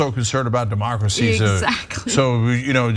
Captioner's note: laugh